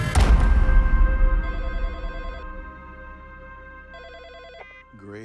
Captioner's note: telephone ringing